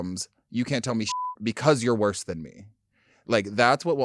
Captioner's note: beep